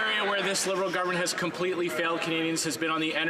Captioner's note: some Applause